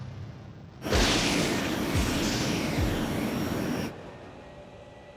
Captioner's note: thunder